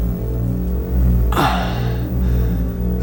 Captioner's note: sigh